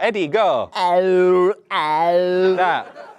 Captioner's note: groan tube noise